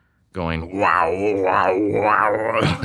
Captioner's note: imitating sound effects